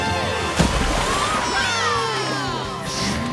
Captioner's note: cheering